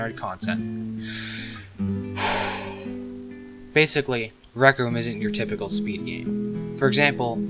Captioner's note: breathes in and out